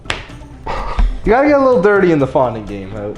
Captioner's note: chuckles